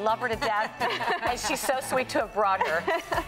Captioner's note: laughs